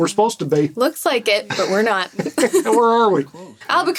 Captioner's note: laughter